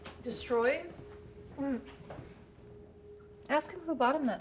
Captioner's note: tense music; Claire laughs